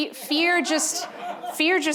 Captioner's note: audience laughing